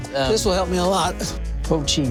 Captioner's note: grunts